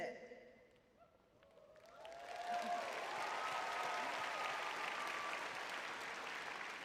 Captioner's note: audience cheering